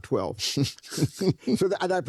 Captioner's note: chuckles